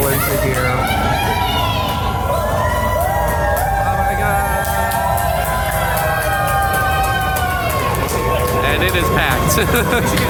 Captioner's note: cheering